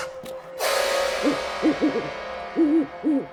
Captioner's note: owl sounds